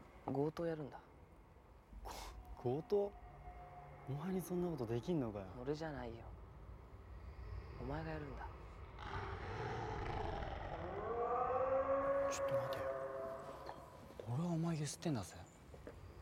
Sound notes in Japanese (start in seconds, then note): 8.8 ほえ声